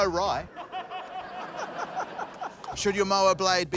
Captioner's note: laughter